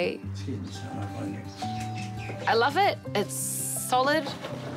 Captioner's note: none